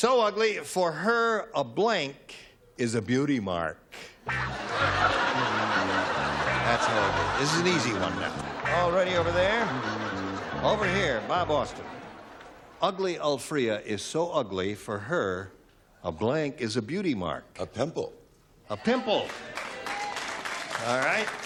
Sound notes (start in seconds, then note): 4.3 laughter